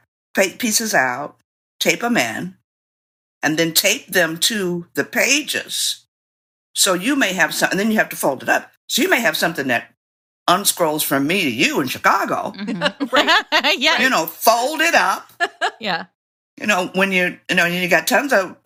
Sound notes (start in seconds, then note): 12.5 laughter